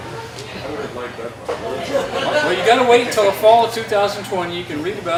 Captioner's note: laughter